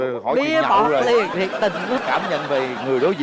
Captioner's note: laughing